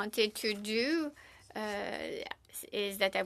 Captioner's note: speaking French